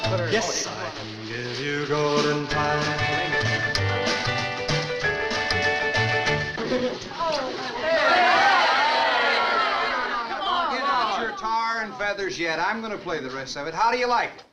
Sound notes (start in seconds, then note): 7.2 crowd groans